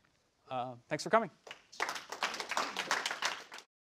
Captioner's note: applause